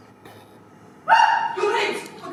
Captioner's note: scream